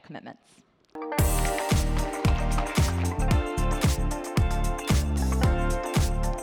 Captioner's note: upbeat music; audience applauds